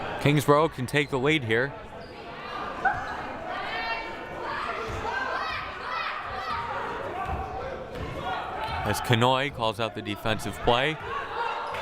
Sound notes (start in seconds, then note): 3.9 players shouting